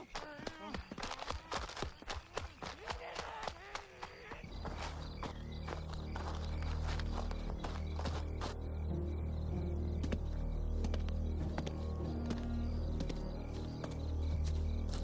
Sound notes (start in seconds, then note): 0.0 footsteps thumping hurriedly; 5.3 crickets chirping; 7.5 leaves crunching; 7.5 tense plodding music